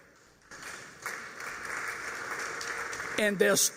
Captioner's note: applause